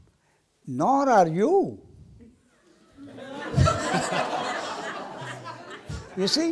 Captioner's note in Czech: smích